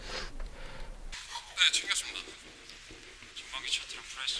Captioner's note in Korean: 콧방귀